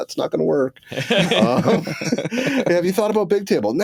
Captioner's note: laughter